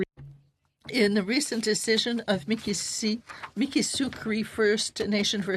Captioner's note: speaking French